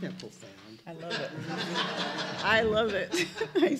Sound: laughter

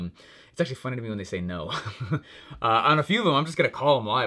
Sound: laughing

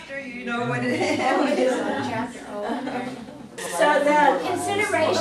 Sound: class laughs

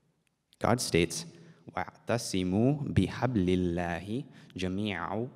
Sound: speaks in Arabic

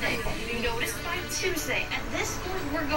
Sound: television Voice

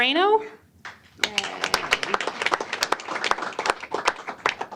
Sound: applause

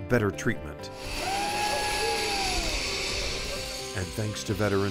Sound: line whizzing

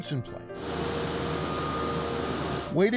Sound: machine rumbling

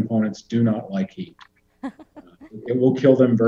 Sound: laughs

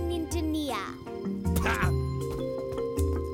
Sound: scoffs

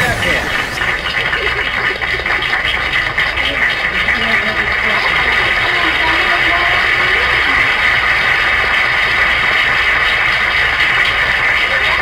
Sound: audience applauds

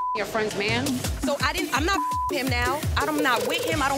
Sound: beep

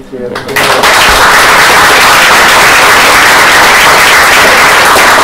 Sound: applause

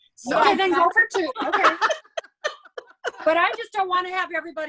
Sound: laughs

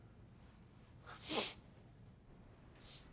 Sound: sniffing

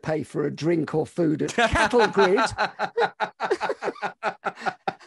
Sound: laughing

